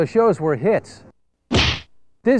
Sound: SFX: punch

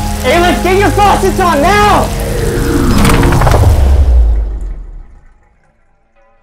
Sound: fading sounds of a power failure

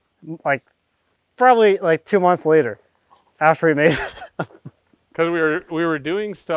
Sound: laughs

